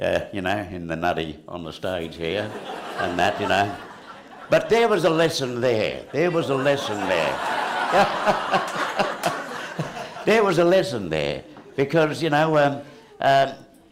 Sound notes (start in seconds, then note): 5.4 laughter